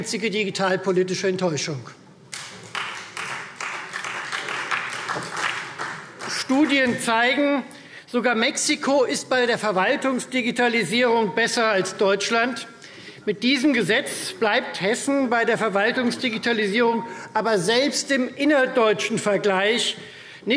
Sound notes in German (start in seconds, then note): 2.3 Beifall Freie Demokraten